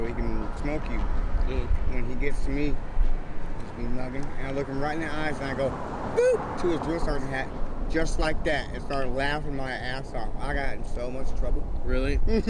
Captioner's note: boop